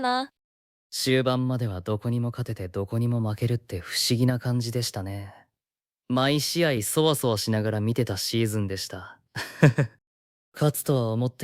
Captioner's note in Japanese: 苦笑